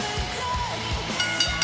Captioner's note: bell ringing